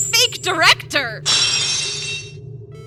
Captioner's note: lock shatters!